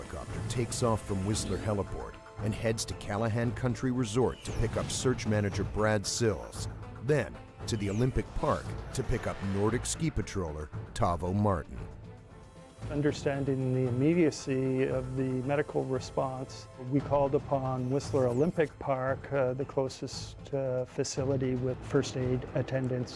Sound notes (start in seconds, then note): 7.2 voiceover